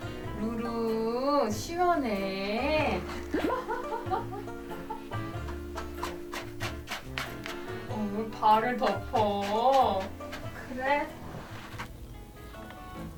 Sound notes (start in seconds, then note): 3.0 laugh; 4.5 SFX: Scratching